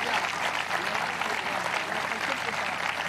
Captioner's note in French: applause